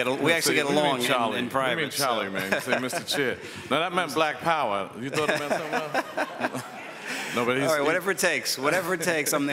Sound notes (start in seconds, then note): 2.3 chuckles; 5.0 some people chuckle